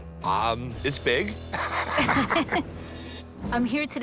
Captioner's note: laughs